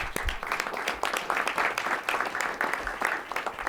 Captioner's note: applause